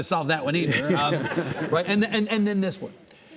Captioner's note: audience laughing; Lawrence chuckling